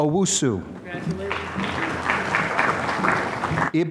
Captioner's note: applause